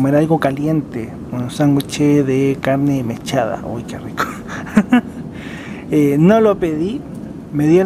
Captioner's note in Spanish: risas